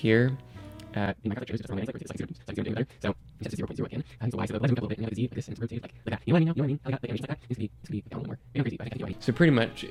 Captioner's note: me talking but sped up 4x